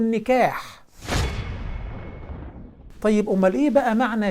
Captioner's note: sound effect